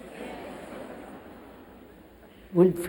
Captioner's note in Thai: เสียงหัวเราะ